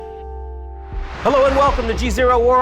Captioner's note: air whooshing